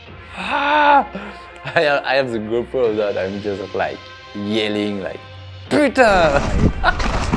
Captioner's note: laughs